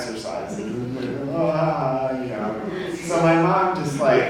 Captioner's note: laughs mockingly